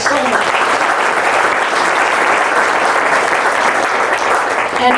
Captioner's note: audience claps